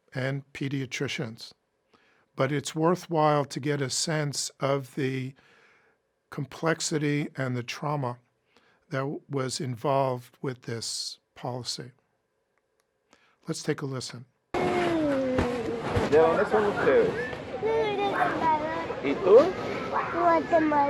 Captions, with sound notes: and pediatricians but it's worthwhile to get a sense of the complexity and the trauma that was involved with this policy. Let's take a listen. (kids crying) (speaking in foreign language)